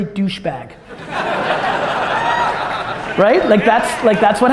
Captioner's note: audience laughter